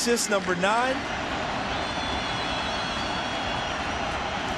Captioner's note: crowd cheering